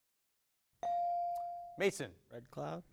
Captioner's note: bell dings